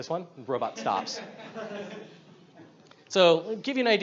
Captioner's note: audience laughs